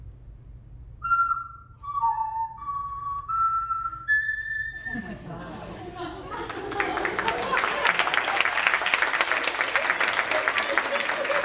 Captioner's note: plays on hands like a flute. Applause and cheering